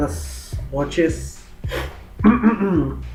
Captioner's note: clears throat